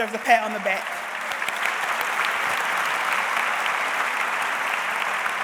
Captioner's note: audience applauds